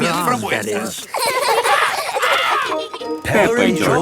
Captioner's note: laughs